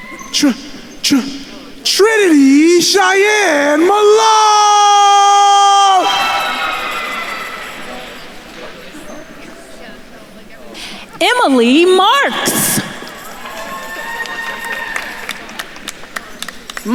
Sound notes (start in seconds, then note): 6.1 attendees cheering; 8.4 attendees chattering; 13.5 attendees cheering and applauding